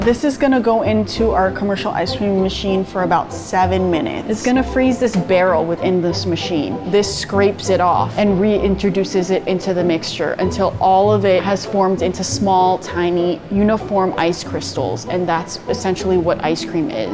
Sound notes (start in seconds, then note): none